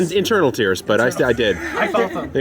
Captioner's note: laughing